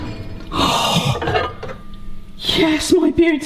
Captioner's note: gasps